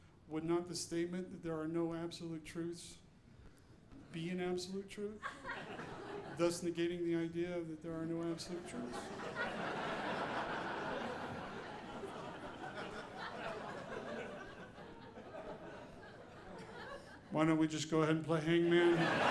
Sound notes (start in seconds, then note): 8.5 audience laughing